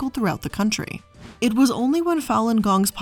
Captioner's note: air whooshing